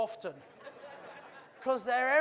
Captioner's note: audience laughs